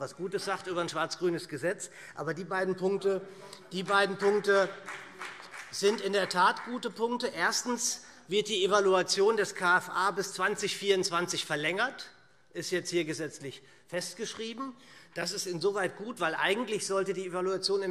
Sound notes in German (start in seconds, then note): 7.1 Vereinzelter Beifall BÜNDNIS 90/DIE GRÜNEN